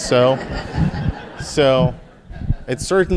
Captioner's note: audience laughing